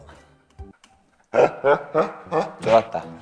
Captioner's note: laughing